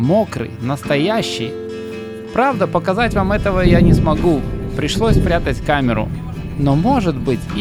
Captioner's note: thunder